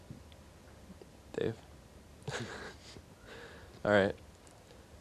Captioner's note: chuckling